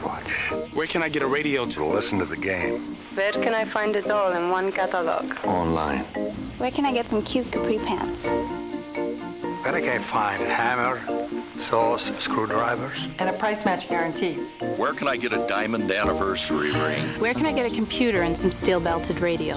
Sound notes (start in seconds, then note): 14.2 gasps